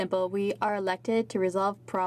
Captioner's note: speaking in French